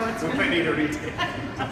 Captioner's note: laughs